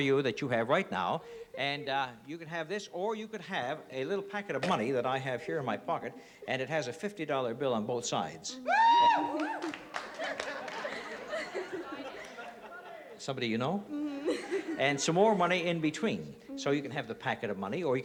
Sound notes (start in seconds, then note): 8.6 cheering; 10.3 laughter